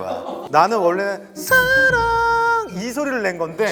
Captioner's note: clear voice